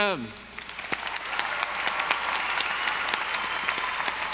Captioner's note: audience applauding